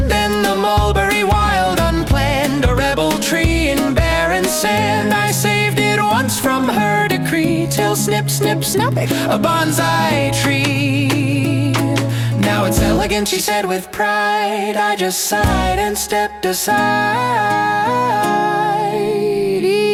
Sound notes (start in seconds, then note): 8.3 snip-snip-SNIP!